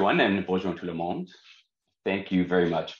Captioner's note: speaks in French